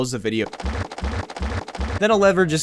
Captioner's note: applause